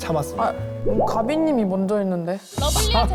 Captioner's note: something-is-off sound effect